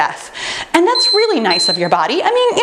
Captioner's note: timer beeping